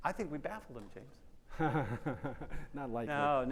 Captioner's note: chuckles